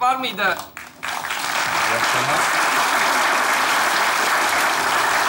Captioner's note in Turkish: Alkış sesleri